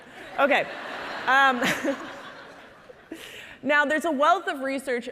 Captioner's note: audience laughing